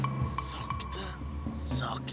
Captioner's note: whispers